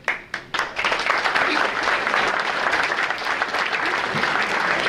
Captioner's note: audience applauding